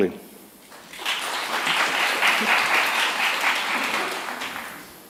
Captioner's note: applause